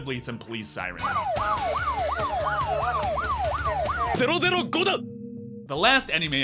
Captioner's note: police Siren sound